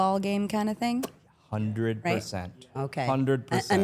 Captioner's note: mouth pops